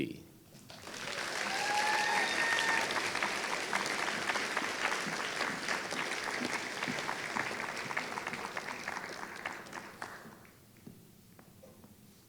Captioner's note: applause